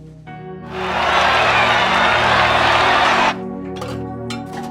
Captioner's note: crowd cheering